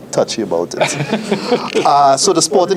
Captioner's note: chuckles